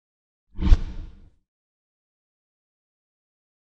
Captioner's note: logo whooshes